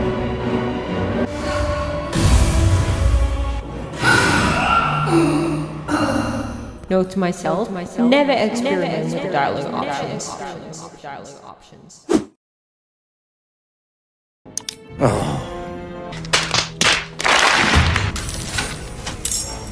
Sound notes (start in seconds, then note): 9.8 echo